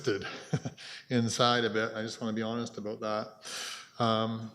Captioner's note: chuckles